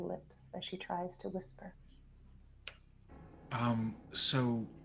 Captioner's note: tense sound effects